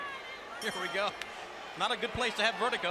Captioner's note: bell ringing